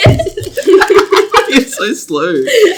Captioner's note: everyone laughs; laughs